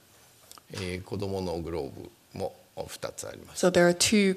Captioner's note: speaking japanese